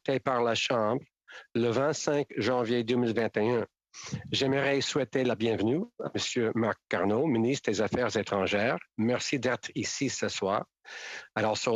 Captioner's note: speaking in French